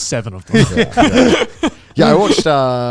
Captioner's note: laughing